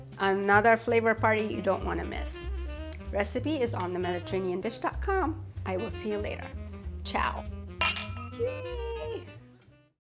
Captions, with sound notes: Another flavor party you don't wanna miss. Recipe is on TheMediterraneanDish.com. I will see you later. Ciao. (glasses clink) Yay. (upbeat jazz music fades)